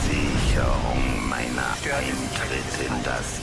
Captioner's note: fire roaring